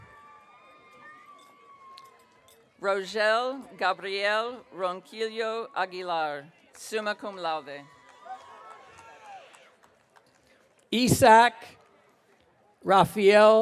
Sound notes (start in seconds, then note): 0.0 audience cheering; 7.8 audience cheering